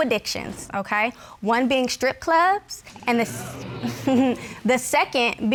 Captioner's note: scoffs